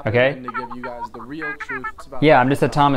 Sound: cartoon voice

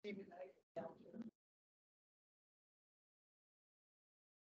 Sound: speaks faintly

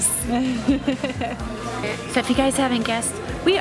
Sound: laughs

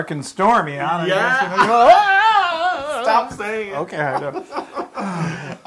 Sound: laugh

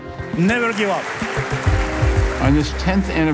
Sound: audience clapping

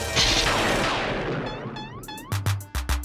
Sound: thunder crashes

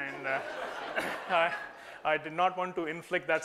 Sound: laughter

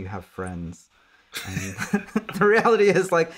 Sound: laughing

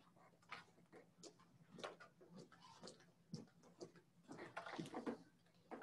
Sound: footsteps clanging

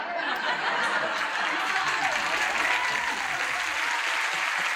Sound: cheers and applause

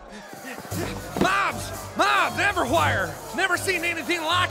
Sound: out of breath

